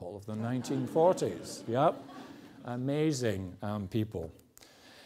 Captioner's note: audience laughs